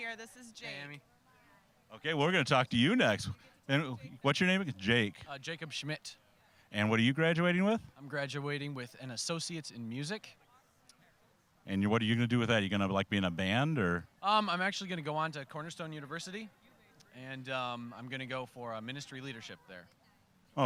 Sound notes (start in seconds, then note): none